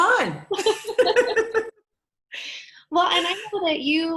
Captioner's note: both laughing